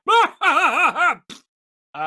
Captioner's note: laughing